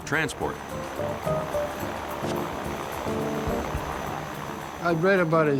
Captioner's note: gentle upbeat music; motor whirring